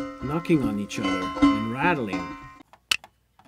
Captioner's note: metal knocking sounds